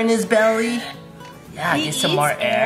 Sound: feeding sounds

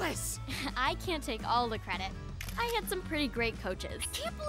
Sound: giggles

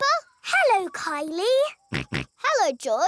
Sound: snorts

